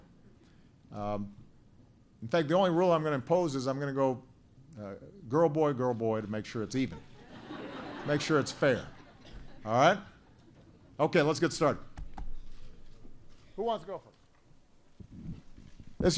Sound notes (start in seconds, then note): 6.8 laughter